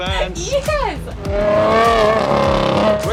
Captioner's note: car engine roaring